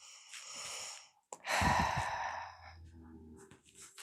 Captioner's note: sigh of suffering